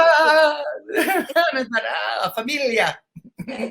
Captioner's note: speaking foreign language